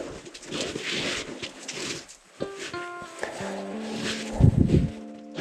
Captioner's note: feet crunching in the snow